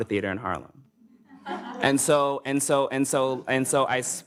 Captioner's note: audience laughs